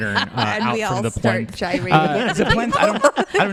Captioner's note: laughs